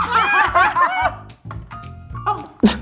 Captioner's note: laughs